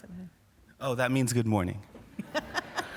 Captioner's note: laughter